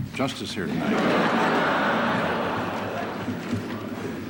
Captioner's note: laughter